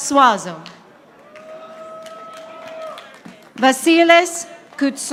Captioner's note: audience applauding